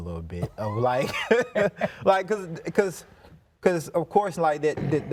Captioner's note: laughs